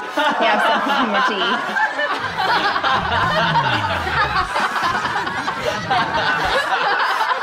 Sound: laughing

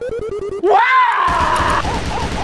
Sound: screams

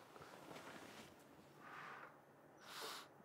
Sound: none

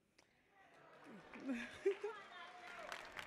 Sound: audience applauding

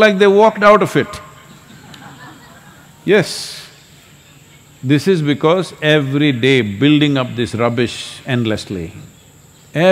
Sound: few Laugh

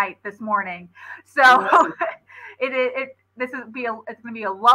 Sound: laughter

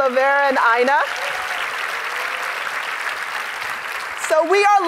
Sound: audience applauding

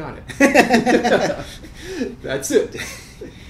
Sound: laughing

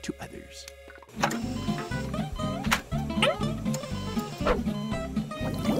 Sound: beeping

